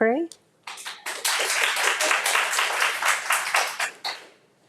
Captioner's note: audience applauds